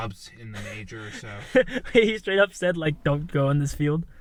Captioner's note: Jake laughs